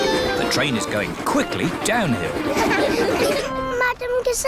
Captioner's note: laughter